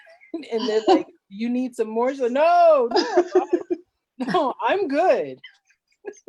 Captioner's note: laughs